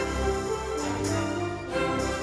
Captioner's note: none